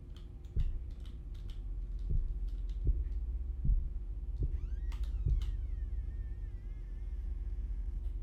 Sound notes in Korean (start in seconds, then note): 4.5 문여는 소리